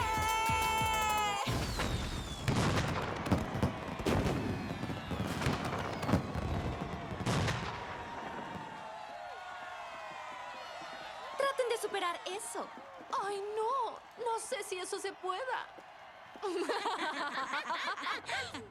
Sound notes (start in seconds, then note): 1.4 explosions; 4.9 crowd cheers; 13.2 sarcastic; 16.5 nasty laughter